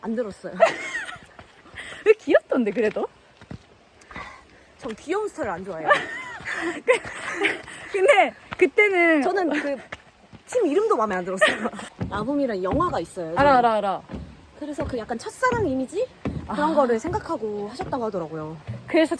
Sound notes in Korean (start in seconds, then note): 0.6 웃음; 5.8 웃음